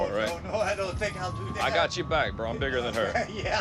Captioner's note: chuckles; laughs